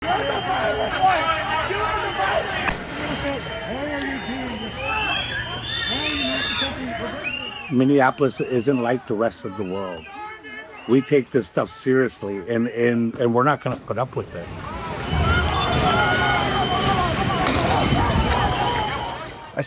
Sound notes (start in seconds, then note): 0.1 crowd yelling indistinctly; 2.6 explosion booms; 5.2 crowd yelling indistinctly